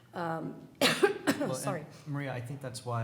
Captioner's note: coughs